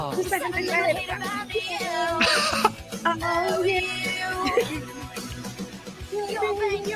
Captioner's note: laughing